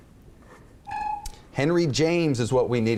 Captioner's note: beeps